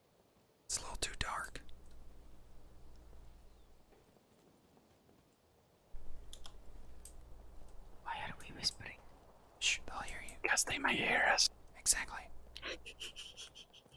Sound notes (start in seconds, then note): 0.6 whispers; 9.5 whispers